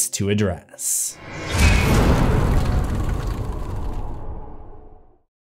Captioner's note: impact